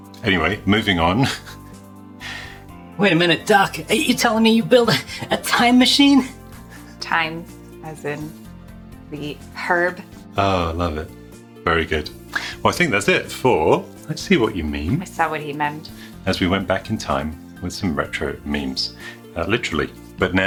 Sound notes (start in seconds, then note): 3.2 pitched up